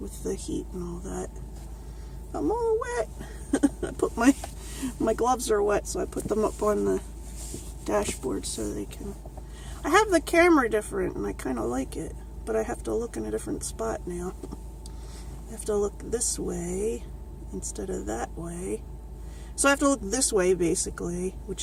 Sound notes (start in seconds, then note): 3.2 laughs